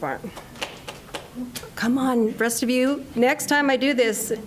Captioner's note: applause